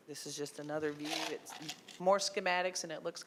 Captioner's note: ice cubes rattling